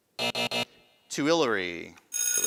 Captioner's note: buzzing